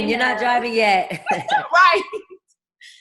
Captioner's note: laughs